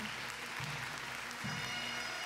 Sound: audience cheers and applauds; jubilant bagpipe music

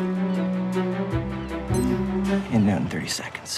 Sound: watch timer beep/buzz

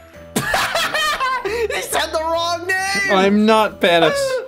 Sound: laughs

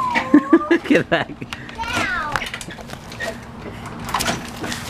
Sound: laughs

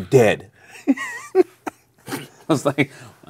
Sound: laughing

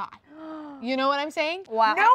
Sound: gasping

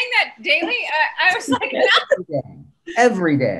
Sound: laughs

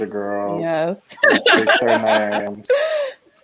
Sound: laughs

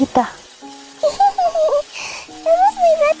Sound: giggles

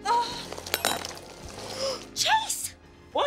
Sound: gasping

